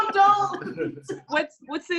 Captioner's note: laughs